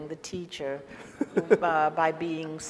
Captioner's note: laughs